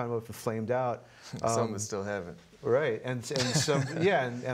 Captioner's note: laughing